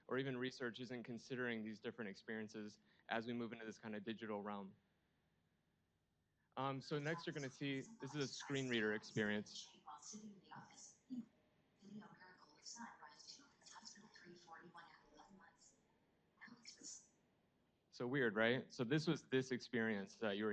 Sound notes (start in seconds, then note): 9.7 faint machine voice